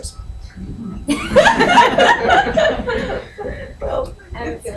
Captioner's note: all laugh